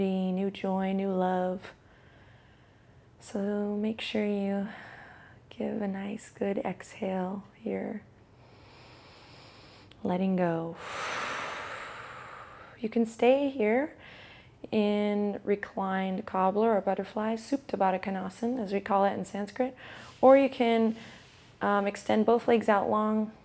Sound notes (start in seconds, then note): 8.0 inhales; 10.8 exhales sharply